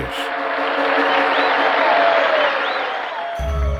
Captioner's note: audience cheering; gentle music